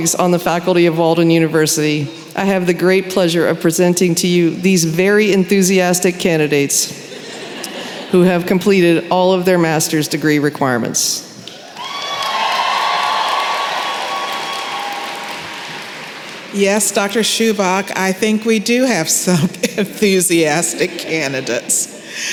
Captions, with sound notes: on the faculty of Walden University, I have the great pleasure of presenting to you these very enthusiastic candidates who have completed all of their Master’s degree requirements. [cheering & applause] Yes, Dr. Subocz, I think we do have some enthusiastic candidates.